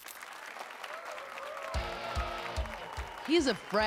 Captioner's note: applause and cheers